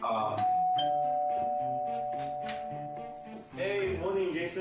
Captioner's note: doorbell rings